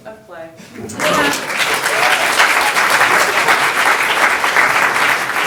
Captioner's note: audience applauding